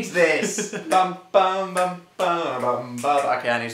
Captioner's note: laughs; humming skeletons; snaps